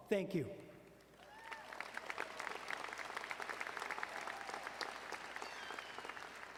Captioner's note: audience cheering and applauding